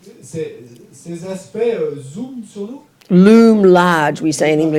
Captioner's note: French